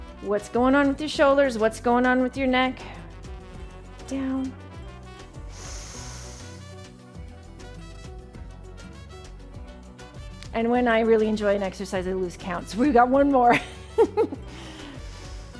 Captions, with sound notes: What's going on with your shoulders? What's going on with your neck? Down. (breathes deeply) And when I really enjoy an exercise, I lose counts. We've got one more. (chuckles)